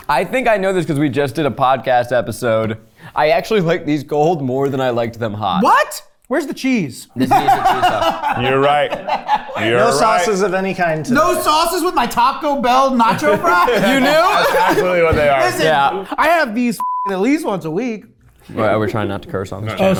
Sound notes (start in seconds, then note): 7.2 laughing; 16.8 beep